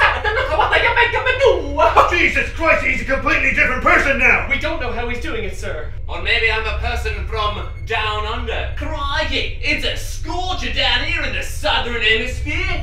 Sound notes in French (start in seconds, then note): 10.0 accent australien